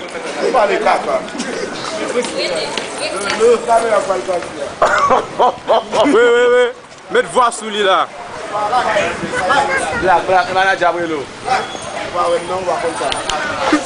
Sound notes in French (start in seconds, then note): 4.8 Rires